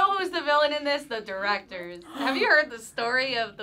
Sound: React gasps

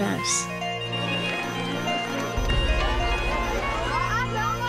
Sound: happy Irish music; crowd chats excitedly; children laughing

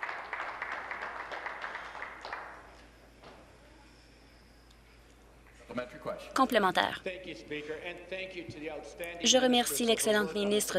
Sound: applause

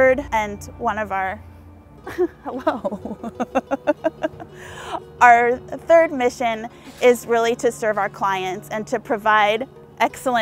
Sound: laughing

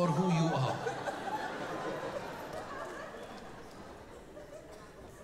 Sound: audience laughing

